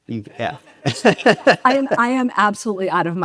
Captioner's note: laughs; audience laughs